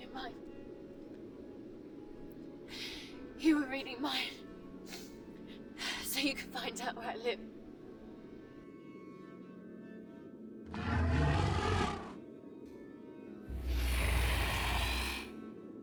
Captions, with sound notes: - I wasn't reading in mind, you were reading mine, so you can find out where I live. (dragon growls)